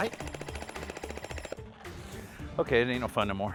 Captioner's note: drilling